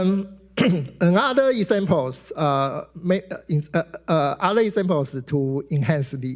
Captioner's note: clears throat